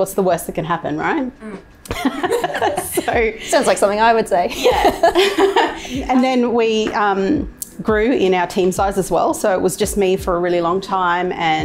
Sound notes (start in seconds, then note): 1.8 laughing